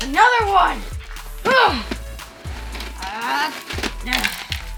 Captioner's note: grunting